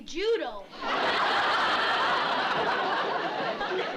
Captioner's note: laughter